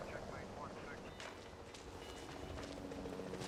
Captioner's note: helicopter flying